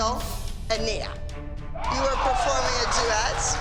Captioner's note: cheering